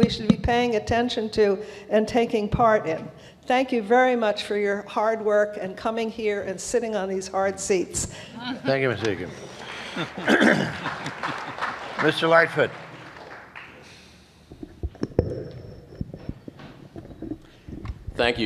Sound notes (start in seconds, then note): 13.6 applause